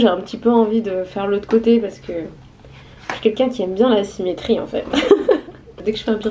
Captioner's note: laughs